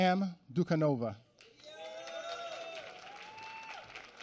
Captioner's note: applause